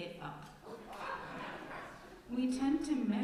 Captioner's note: laughter from congregation